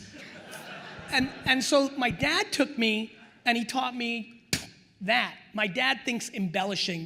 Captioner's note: spits